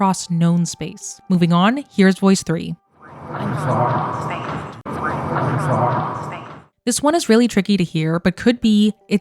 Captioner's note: voice 3 playing